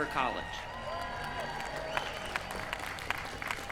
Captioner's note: cheering